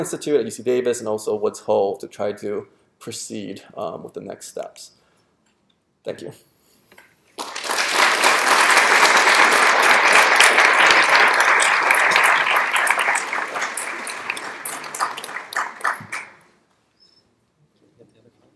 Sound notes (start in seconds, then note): 6.6 applause